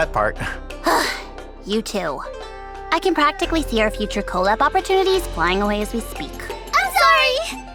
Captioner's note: sigh